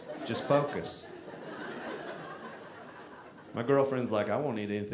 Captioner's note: audience laughing